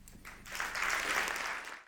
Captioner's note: audience applause